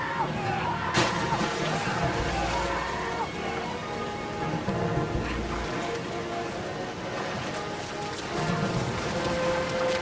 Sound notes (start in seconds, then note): 0.9 splash; 8.8 splashing